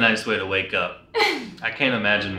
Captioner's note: chuckles